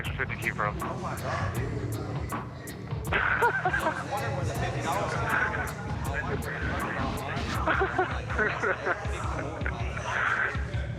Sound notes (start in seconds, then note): 3.1 laughs